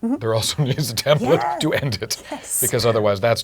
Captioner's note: laugh